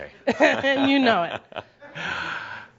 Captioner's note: Adamus chuckles